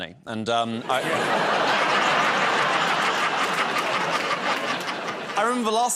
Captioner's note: laughter